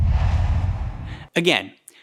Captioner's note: logo swooshes